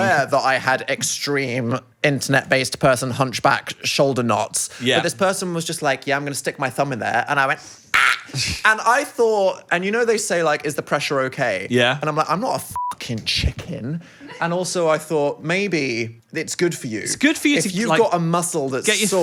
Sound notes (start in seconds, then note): 12.7 beep